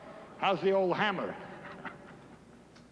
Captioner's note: giggles